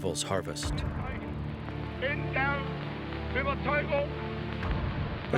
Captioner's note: speaking foreign language